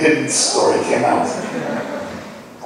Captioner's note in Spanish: laughing